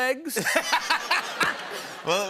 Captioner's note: laughter